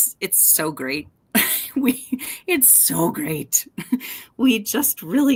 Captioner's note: chuckles